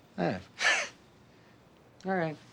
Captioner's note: laughs